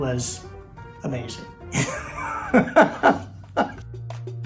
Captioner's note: laughing